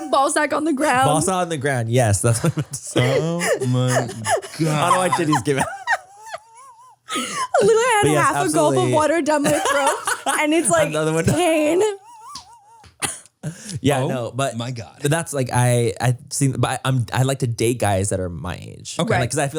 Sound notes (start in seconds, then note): 6.8 laughs; 12.6 all laugh